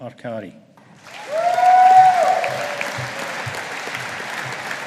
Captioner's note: audience applauding